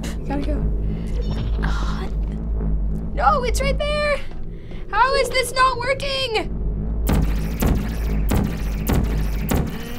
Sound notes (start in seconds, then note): 1.1 groans; 7.0 gun zapping